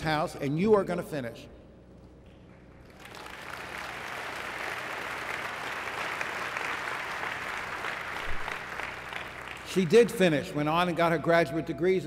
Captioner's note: applause